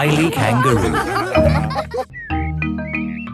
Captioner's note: all laughing